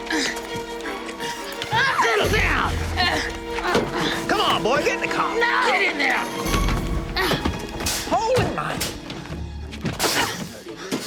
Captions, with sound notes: - Settle down! Come on boy, get in the car. - No! - Get in there! (grunts) - Hole in one!